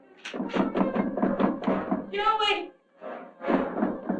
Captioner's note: loud knocking